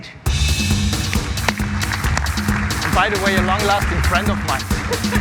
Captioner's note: applause